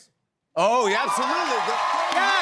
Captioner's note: cheers and applause